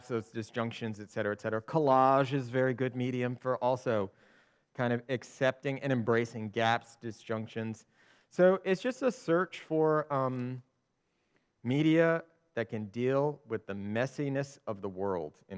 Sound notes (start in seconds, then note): none